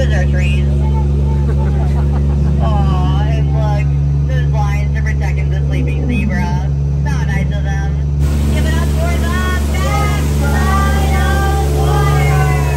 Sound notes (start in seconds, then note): 1.2 guests chuckling